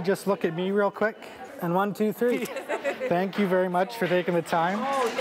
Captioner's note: applause